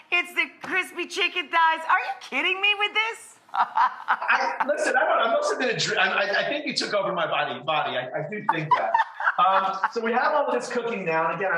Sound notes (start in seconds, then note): 3.5 laughs; 8.5 laughs